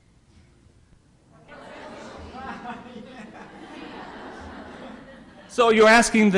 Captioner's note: laughter